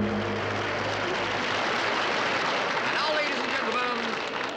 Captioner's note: audience applauds